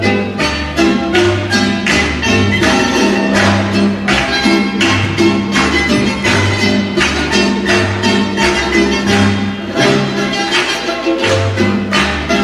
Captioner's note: clapping rhythmically